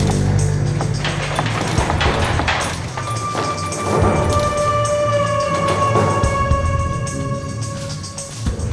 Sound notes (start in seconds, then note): 0.0 stairs rattling